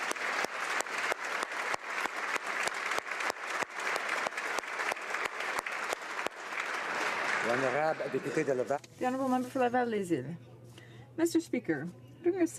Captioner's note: applause